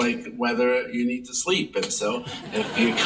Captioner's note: audience laughing